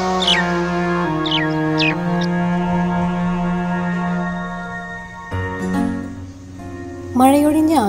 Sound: common myna squawking

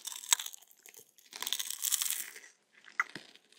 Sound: crunch

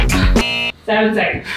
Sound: buzzer beeps

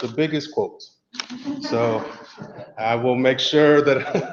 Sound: laugh

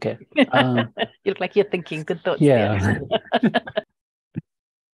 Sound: laughs

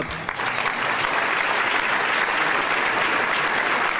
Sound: applause

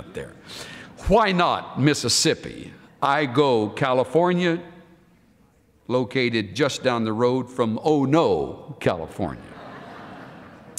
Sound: laughter

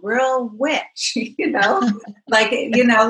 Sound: laughs

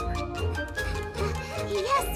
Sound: panting

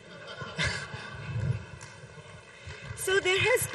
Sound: audience laughs

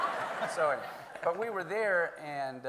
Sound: everyone laughing

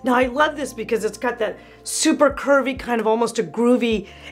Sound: none

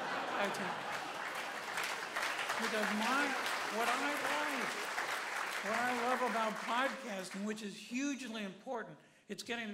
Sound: applause

